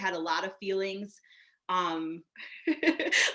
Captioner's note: laughing